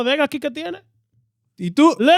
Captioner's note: speaking In Foreign Language